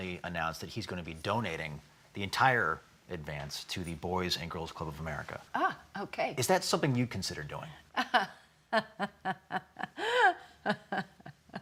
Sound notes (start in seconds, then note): 8.7 laughs